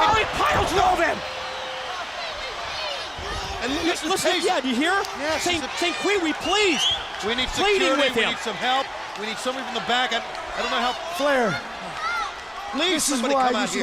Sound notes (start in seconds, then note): 2.7 crowd cheering